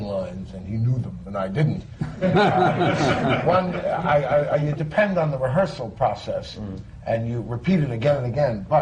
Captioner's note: laughter